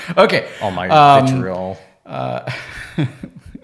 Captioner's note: laughs